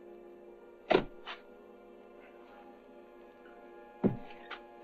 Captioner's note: shovels thudding